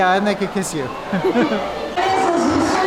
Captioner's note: both chuckling